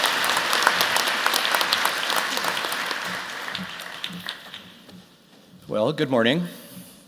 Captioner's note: applause